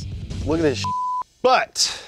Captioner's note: beep